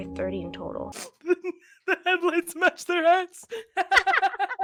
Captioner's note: laughing; laugh